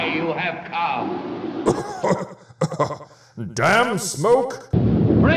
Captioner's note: cough